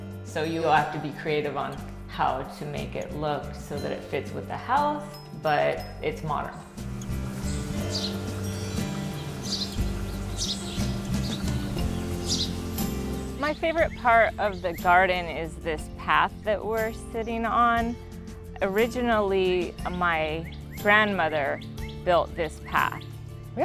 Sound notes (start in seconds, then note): 6.2 birds twittering; 7.7 mellow music